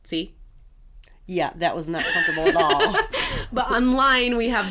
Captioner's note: laugh